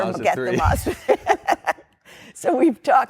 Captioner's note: laughter